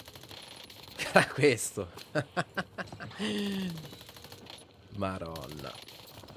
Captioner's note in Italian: risate